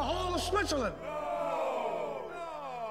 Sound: crowd

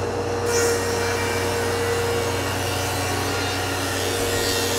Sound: machine buzzing

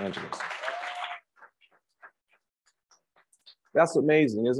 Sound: crowd applauds

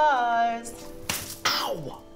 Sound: slap

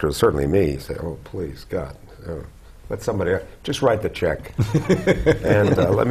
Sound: laugh

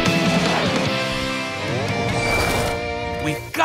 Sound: none

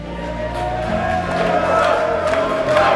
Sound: chanting

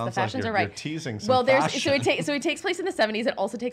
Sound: voice muffled

